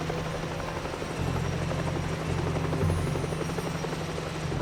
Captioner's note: chopper roaring